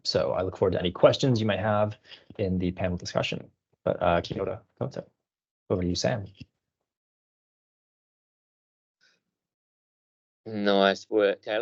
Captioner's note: foreign language 00:17:12